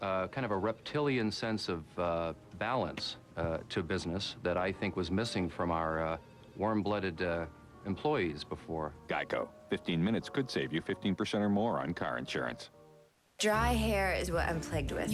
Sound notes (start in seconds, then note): none